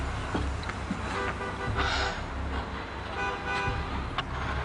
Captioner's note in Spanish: Suena un claxon